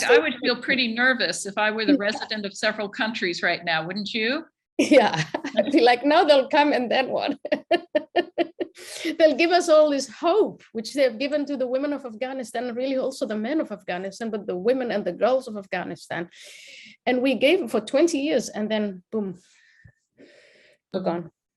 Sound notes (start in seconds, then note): 4.9 chuckles; 7.3 laughs